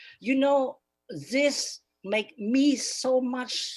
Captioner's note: speaking Spanish